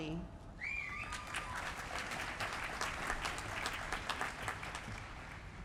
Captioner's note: applause